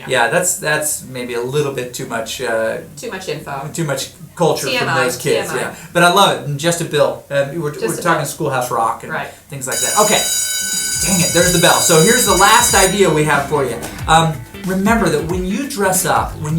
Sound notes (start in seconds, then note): 9.7 school bell ringing